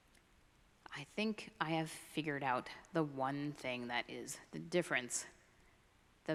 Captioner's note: none